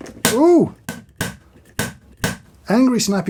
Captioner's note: lid tapping